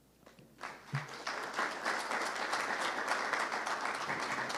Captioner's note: audience applauding